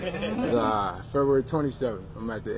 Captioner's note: laughing